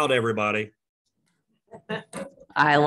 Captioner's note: chuckling